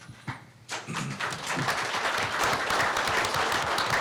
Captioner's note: applause